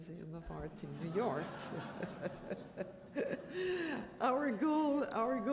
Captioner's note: laughter